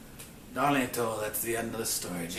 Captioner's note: speaking in a foreign language